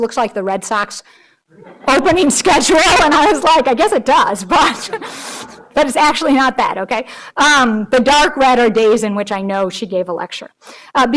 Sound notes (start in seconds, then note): 4.3 all laughing